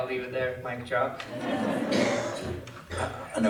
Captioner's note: laughter